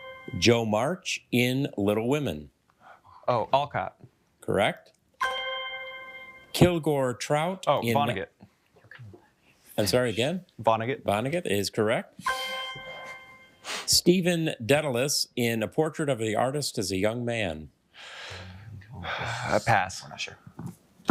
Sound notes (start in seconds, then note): 0.0 triumphant chime; 5.2 triumphant chime; 12.2 triumphant chime